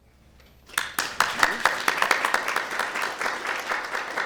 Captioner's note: applause